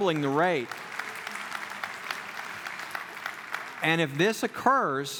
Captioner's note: clapping